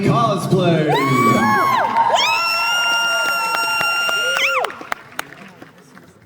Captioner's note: audience Cheering